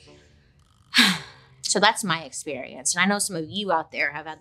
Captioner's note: sighs